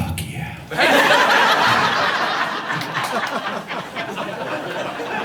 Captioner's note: audience laughing